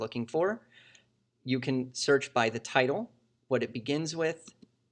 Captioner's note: click